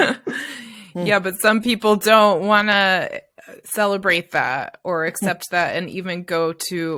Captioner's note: laughter